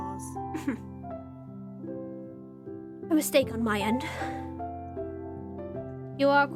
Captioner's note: huffs